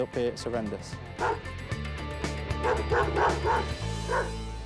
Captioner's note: dog barking